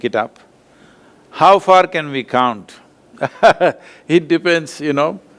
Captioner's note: laughs